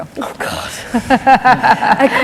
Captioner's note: laughter